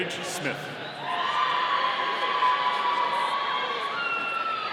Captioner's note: audience cheering